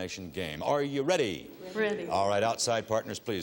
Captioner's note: none